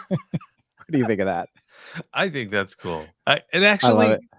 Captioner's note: laughing